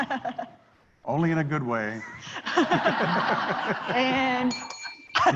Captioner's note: laughter